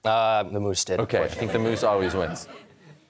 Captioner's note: laughter